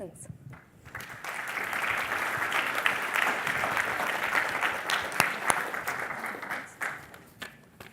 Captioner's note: applause